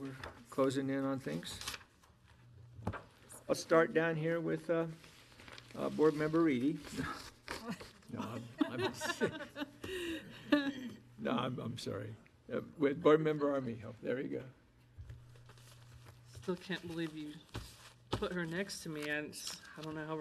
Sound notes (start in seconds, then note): 8.1 group laughing